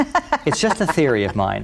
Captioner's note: laughs